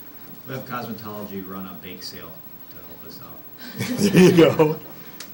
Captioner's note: laughing